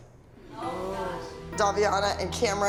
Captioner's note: group murmurs